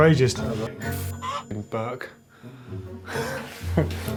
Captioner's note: clucking; laughing